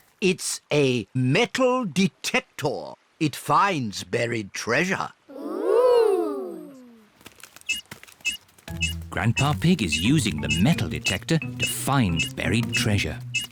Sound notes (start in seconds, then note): 7.3 beeps slowly